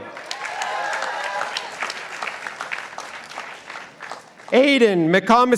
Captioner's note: participants applauding